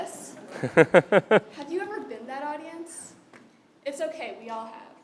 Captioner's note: laugh